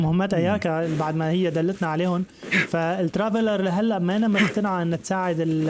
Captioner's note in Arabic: الشخير